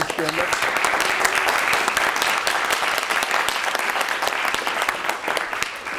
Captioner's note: applause